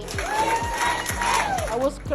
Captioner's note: kids chanting "USA"